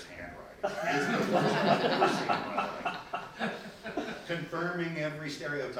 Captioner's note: people laughing